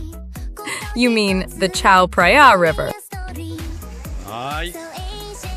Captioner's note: laughs